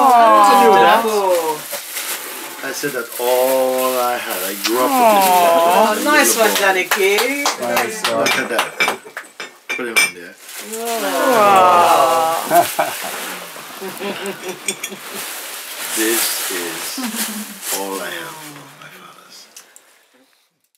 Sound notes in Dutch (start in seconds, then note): 12.2 gelach